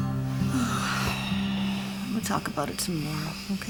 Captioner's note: sighing